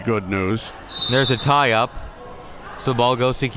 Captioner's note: whistle being blown